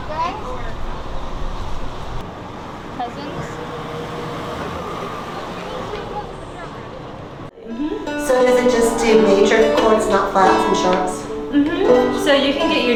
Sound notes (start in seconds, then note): 2.9 car engines revving